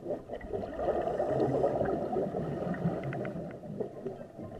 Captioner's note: water bubbling